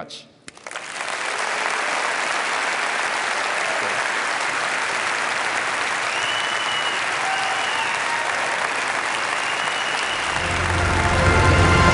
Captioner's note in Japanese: 拍手